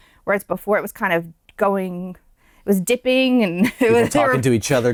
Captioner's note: laughter